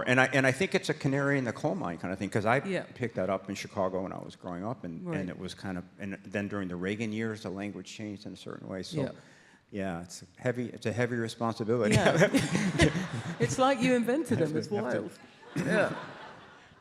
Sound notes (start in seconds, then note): 11.9 audience laughs